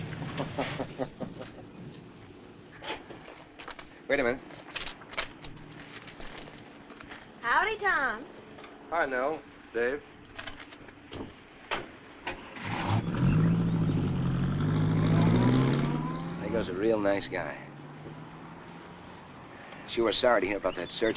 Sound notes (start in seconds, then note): 0.2 Tom chuckling; 11.8 car door thuds; 12.3 car engine rumbling